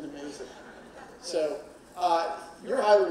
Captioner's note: audience laughing